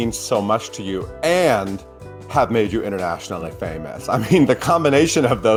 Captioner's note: chuckles